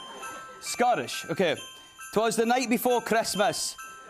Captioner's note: Scottish accent